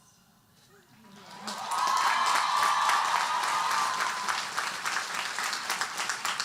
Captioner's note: audience cheering and applauding